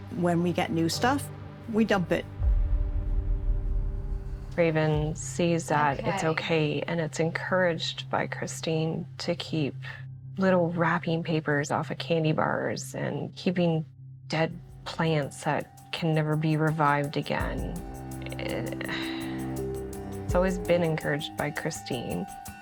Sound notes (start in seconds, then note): 18.6 sighing